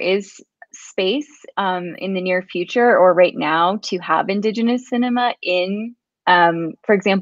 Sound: speaks portuguese

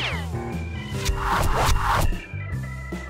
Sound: arrows hitting

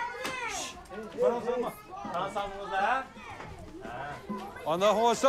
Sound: children shouting

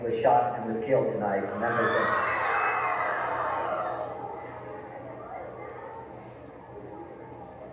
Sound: crowd reacts in dismay

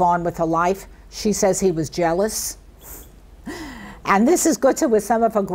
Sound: chuckles

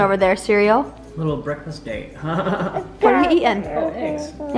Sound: laughs

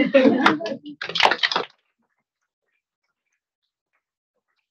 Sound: attendees chuckle; attendees applauding

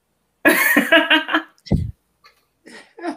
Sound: laughs

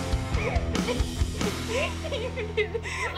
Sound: Alexis sobbing

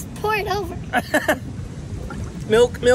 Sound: laughing

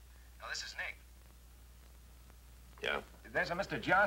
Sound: on phone

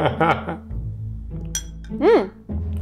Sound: laughing; fork clinking

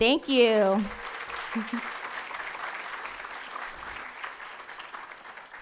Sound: audience applauding

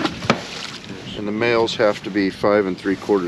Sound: splashing

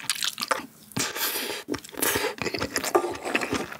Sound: devouring

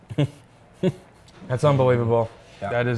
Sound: chuckles

